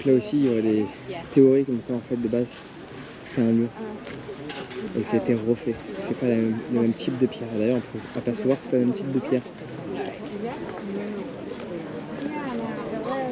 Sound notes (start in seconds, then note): 1.1 speaking in foreign language; 4.6 speaking in foreign language; 7.8 crowd chattering